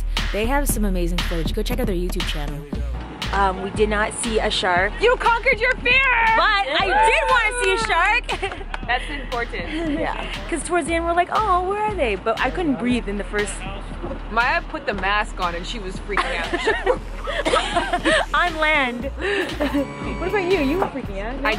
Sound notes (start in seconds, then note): 6.7 cheering